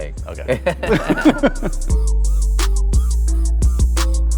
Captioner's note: laughs; synthesizer music